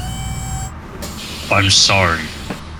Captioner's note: hydrolic lift noises